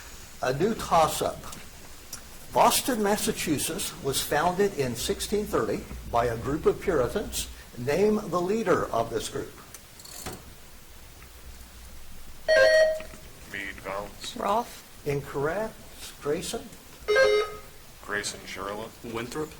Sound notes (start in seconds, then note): 12.4 buzzer chimes; 17.0 buzzer chimes